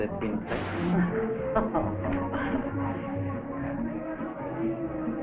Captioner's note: Elizabeth chuckling; pleasant instrumental music